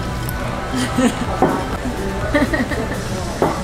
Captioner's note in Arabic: يضحك